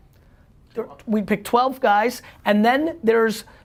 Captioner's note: faintly speaking